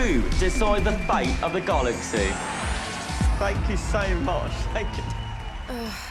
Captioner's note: audience cheering, applauding